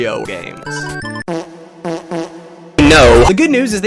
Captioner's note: flatulance